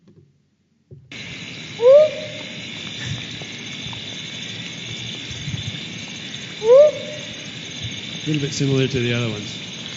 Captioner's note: sound of frog calls